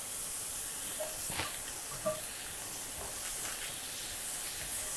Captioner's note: onions sizzling